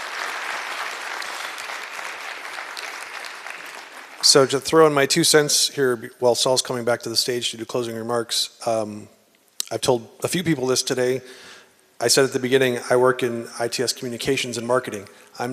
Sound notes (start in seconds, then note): 2.3 applause